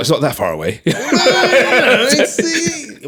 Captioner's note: both laughing